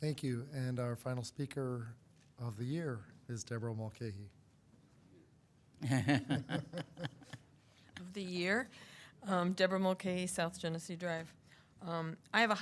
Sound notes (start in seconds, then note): 5.8 laugh